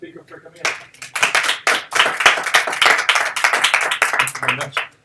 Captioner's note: audience applauding